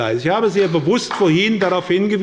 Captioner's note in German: Beifall bei der SPD